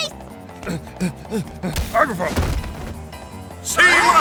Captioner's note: running and Puffing